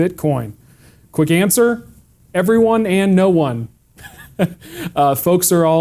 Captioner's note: laughs